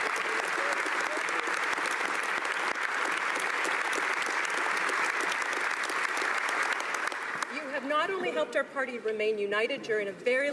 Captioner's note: applause